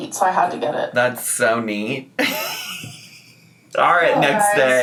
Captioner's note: laughs